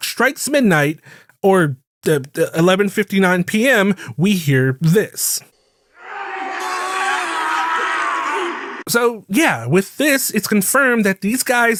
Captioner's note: screams